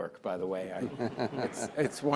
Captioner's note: audience chuckling